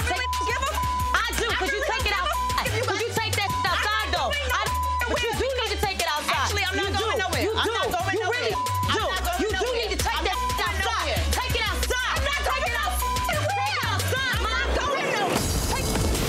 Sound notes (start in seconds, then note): 0.0 beeps; 3.5 beep; 4.4 beeps; 7.3 beep; 11.1 beeps; 14.6 beeps